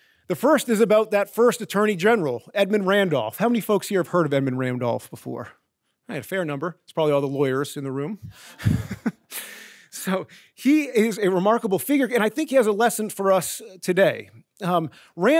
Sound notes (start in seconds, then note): 8.4 chuckles